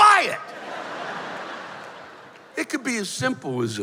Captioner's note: laughter